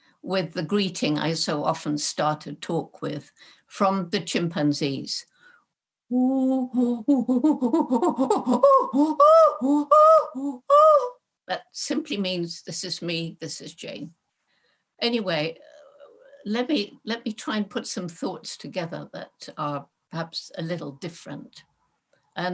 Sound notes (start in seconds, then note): 7.0 imitates chimpanzee